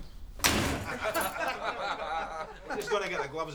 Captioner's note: laughter